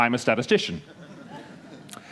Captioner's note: laughter